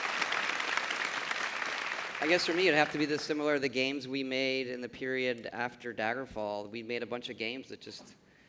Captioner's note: applause